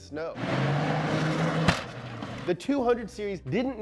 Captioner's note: car revving